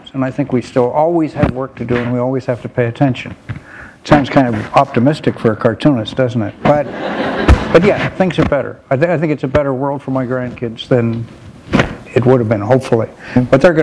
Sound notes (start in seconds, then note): 6.7 laughter